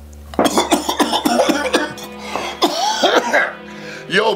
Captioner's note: coughing